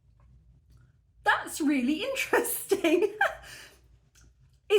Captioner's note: laughing